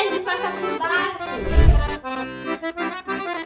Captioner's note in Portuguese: Efeito sonoro de transição